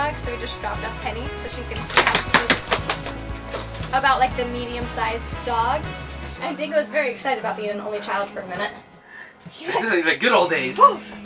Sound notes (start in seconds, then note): 1.7 dog flapping